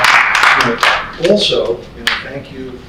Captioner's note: applause